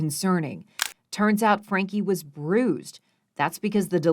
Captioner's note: camera shutter clicks